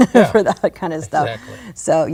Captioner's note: laughter